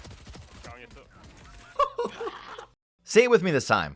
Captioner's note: laughs